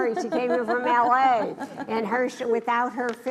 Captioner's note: laughs